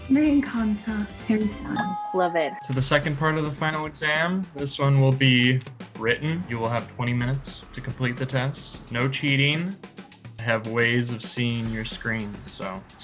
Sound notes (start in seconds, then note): 0.3 speaking Spanish; 1.7 bell dings